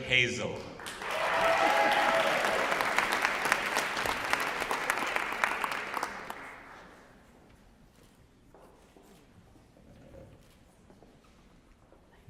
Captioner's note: applause